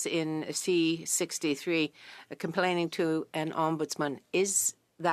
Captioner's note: speaking French